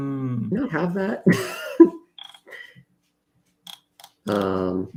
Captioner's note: laughs